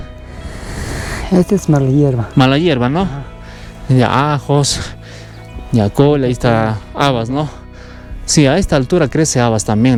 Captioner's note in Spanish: resoplido